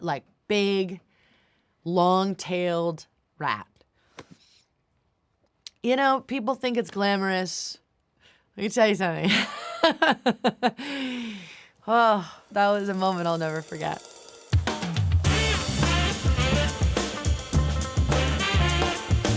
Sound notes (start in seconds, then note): 9.7 laughs; 15.2 upbeat music